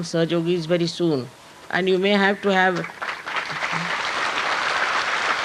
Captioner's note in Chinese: 掌聲